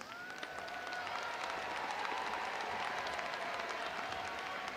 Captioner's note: audience applauding